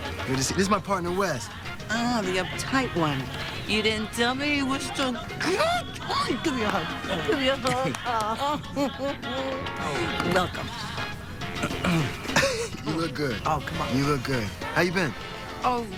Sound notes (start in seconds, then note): 9.0 chuckles